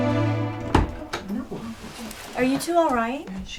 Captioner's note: bangs